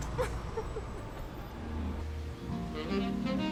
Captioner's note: Cassidy laughing; soft music